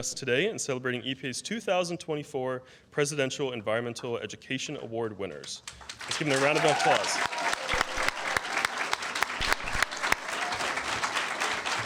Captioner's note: applause